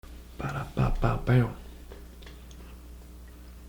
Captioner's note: beatboxing